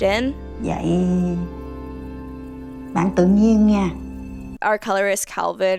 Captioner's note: grandmother speaking in foreign language